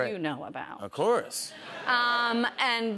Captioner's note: laughter